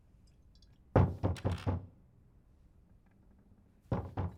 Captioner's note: knocking on door